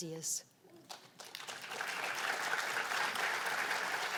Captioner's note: applause